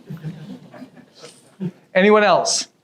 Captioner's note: audience chuckles